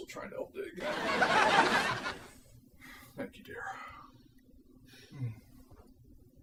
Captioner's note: audience laughing